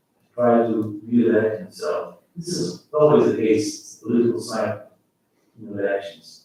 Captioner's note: faintly speaking